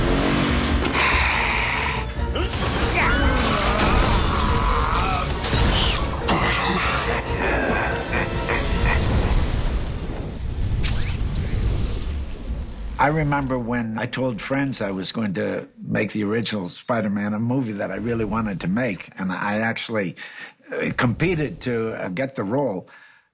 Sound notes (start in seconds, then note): 4.4 growling; 6.2 growls